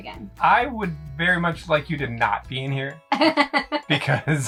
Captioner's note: laughs